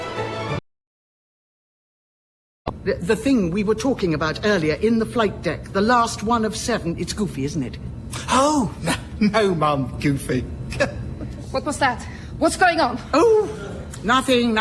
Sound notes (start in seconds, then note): 10.7 he laughs